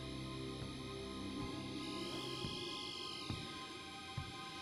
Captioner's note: whirring